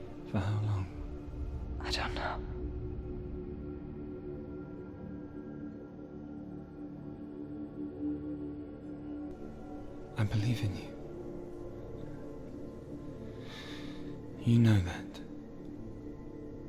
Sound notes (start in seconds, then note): 13.3 takes deep breath